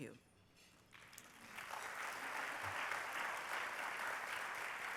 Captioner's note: applause